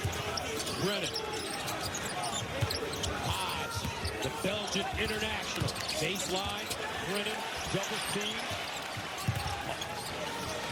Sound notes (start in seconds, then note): none